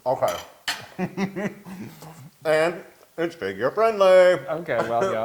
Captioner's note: laugh